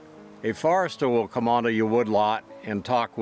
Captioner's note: voiceover